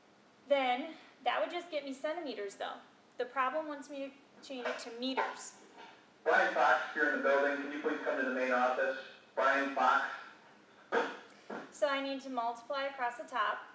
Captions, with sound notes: Then, that would just get me centimeters though, the problem wants me to change it to meters. *Unscheduled PA announcement* So, I need to multiply across the top: